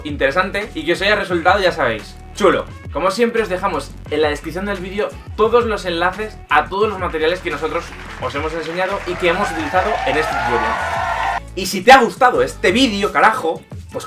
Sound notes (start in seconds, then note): 10.6 big round of applause yay!